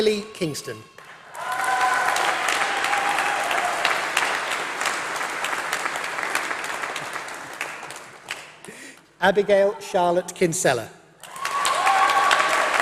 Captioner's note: applause; applause